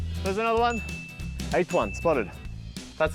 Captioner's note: ding!